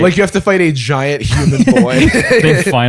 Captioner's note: laughter